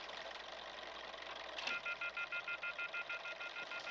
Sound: beeping

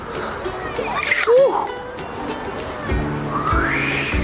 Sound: screams; dad mimicking swing whooshing

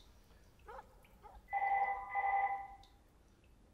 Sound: phone ringing

